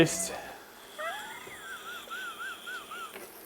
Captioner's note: laughter